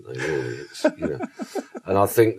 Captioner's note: host laughs